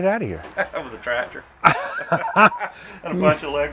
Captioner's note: laughing